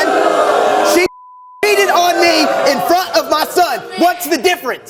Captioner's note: beep